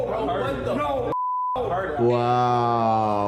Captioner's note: beep